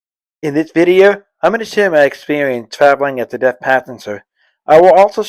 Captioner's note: voiceover